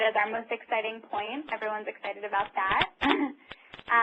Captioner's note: laughter